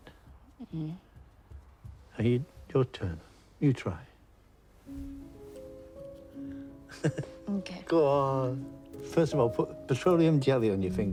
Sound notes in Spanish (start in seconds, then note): 6.9 Oscar riendo